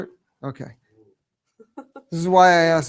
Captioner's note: chuckling